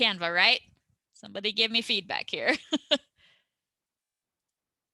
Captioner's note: chuckles